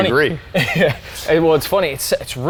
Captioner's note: chuckles